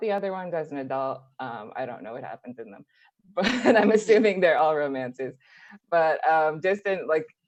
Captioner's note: laughs